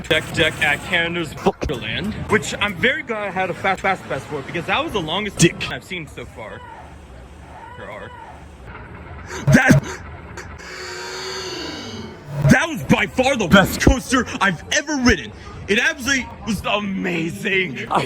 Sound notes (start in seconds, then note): 10.3 inhale